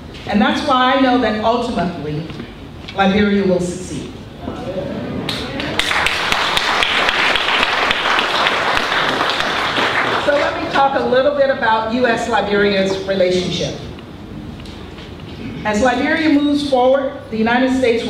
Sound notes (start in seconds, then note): 5.3 applause